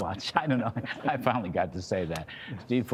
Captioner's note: laughter